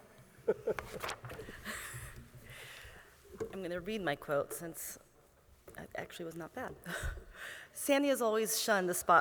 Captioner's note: laughter